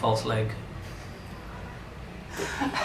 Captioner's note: laughing